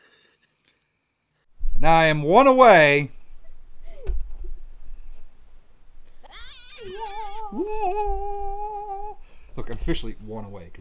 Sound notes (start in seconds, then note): 6.2 cartoon scream; 7.1 sing angelically